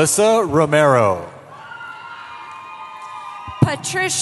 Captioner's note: cheering